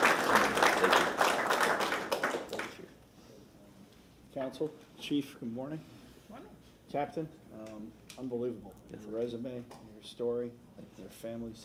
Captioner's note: applause